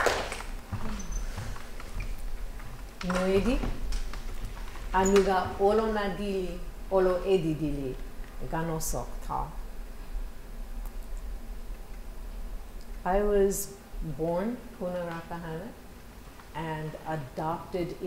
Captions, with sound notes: [NON-ENGLISH SPEECH] I was born Kuna Rappahannock and adopted